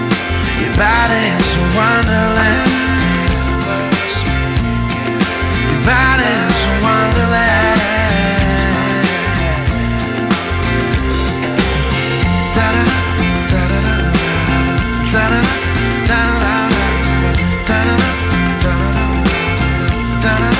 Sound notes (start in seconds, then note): 12.2 vocalizing